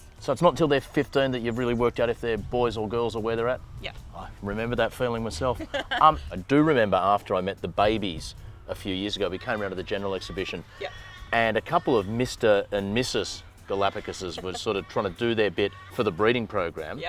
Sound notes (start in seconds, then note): 5.4 laughing